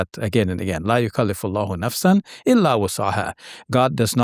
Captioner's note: quotes Quran in Arabic